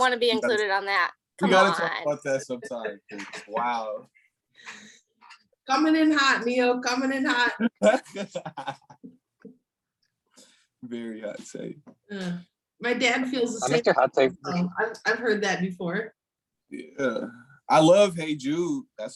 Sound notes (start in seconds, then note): 7.6 laughing